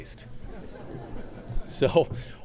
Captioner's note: laughter